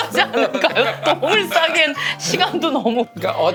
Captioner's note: giggle